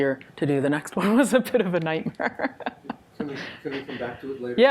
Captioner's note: laughs